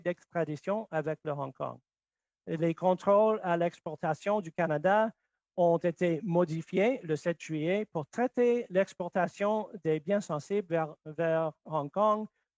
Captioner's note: speaking French